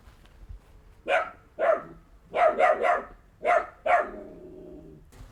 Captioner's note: dogs barking